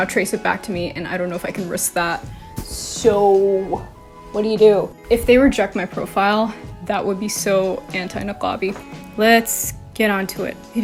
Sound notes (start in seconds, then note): none